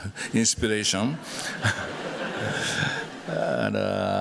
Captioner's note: laughter